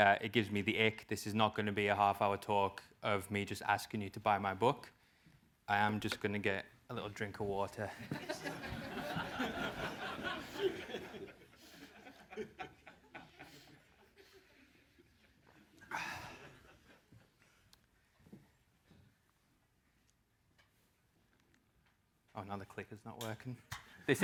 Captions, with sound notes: It gives me the ick, this is not gonna be a half hour talk of me just asking you to buy my book. I am just gonna get a little drink of water. >> [LAUGH] >> Another click is not working.